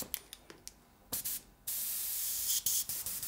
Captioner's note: airbrush hissing